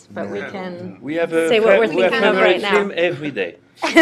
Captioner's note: laughter